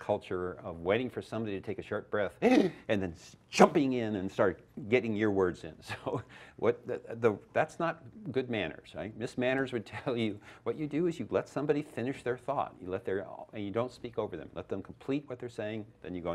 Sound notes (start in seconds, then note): 2.4 gasps; 6.1 laughs